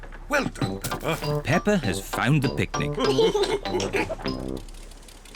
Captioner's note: all laugh